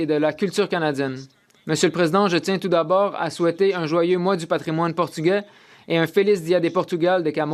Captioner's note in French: voix de l'interprète